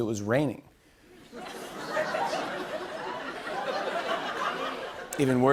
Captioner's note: laughter